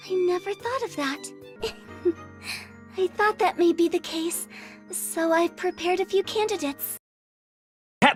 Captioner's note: giggling